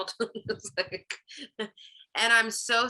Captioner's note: chuckles